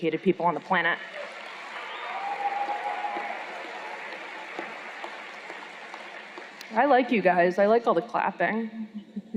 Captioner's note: cheers and Applause